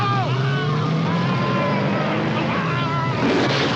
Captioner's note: cop screaming; car rumbles away; gun shot